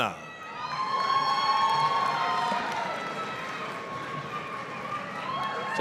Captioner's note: applause, cheering